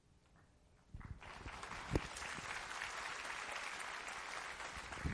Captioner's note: applause